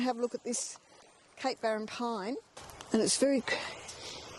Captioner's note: deeply inhales